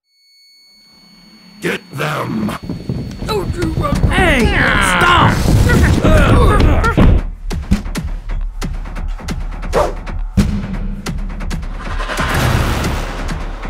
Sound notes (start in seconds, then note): 5.8 insane banging behavior; 7.7 staff thud; 9.7 fancy spin and then thud